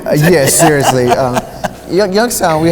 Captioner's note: laughs